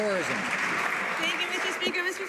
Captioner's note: some Applause